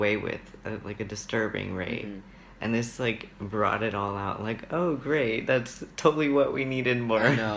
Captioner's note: sarcasm